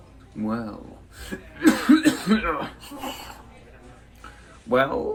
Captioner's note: cough